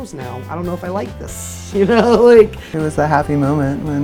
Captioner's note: laughs